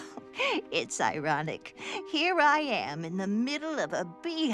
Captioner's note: chuckles